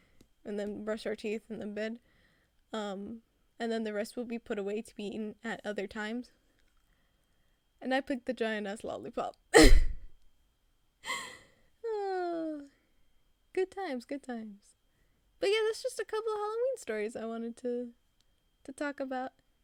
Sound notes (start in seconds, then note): 11.1 me calming down and sighing